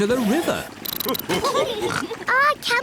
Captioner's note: all laugh